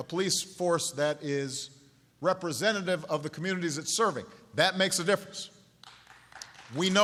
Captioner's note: applause